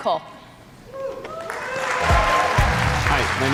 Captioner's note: cheers and applause